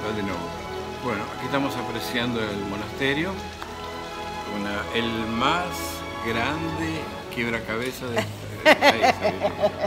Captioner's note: laughs